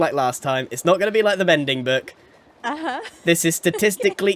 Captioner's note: laughs